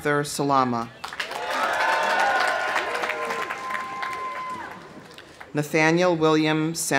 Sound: audience applauding; audience cheering

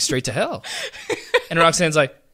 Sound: laughs

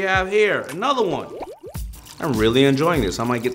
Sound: bubbles popping

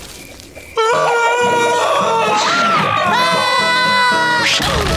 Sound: screaming

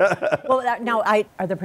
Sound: laughter

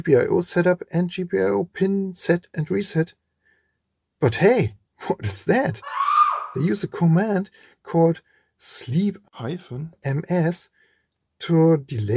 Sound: scream

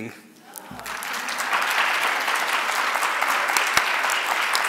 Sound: audience applauds

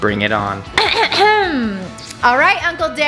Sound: clears throat

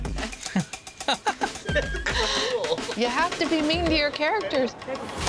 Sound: chuckles; chuckling

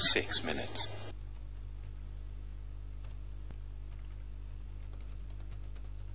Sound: sound of typing

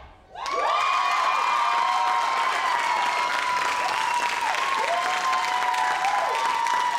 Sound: audience cheers; audience applauds

